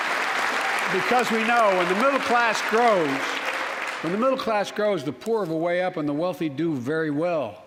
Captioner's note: applause